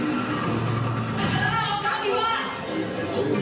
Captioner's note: yelling; speaking foreign language